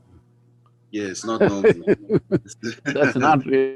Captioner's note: Sadhguru laughs